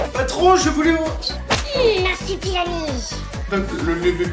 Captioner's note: whip